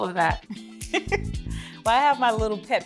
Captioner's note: chuckles